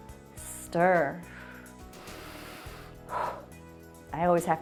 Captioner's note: inhales and exhales